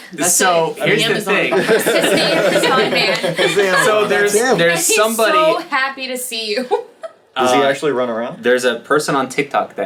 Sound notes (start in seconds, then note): 7.0 laughs